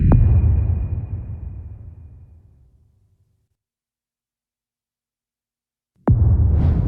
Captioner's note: dramatic sound